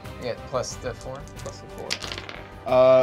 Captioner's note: dice clacking